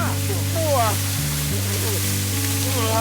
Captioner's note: yells